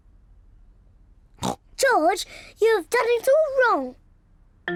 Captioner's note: snorts